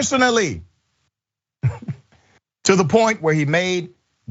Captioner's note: laugh